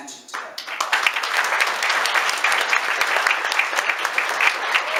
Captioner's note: applause; applause gets louder